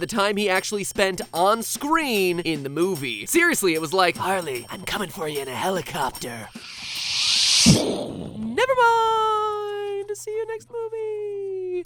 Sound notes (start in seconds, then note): 6.5 sshhh--BOOM